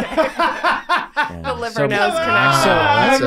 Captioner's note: group laughing